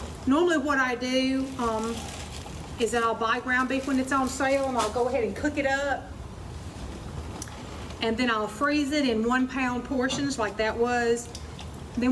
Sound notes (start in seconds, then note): 1.2 plastic crinkling